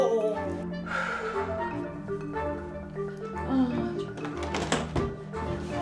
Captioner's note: sighs